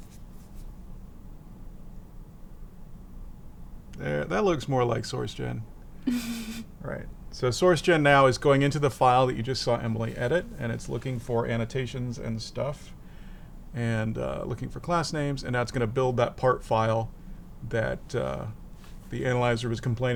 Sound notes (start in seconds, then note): 6.1 laughs